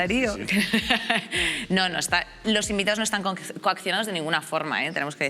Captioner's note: laughter